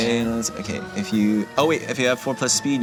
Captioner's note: none